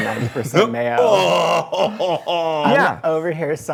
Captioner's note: laughter